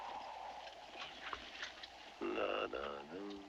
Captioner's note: humming